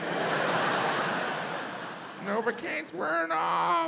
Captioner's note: audience laughs